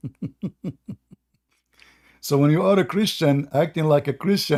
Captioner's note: Ketawa